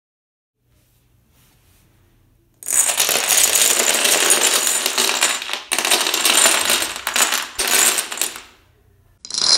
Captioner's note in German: Dominos fallen